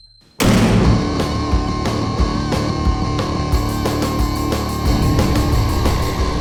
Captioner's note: metal clangs; rock music